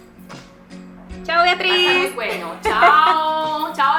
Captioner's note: laughs